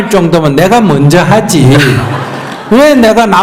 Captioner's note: audience Laughter